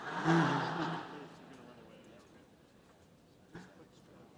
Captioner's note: laughter